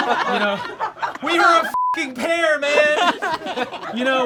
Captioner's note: all laugh; beep